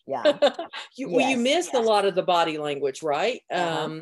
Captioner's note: laughs